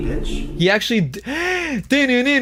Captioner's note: gasps; sings